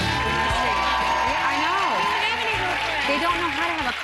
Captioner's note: cheers and applause